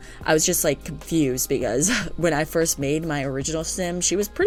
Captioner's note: laugh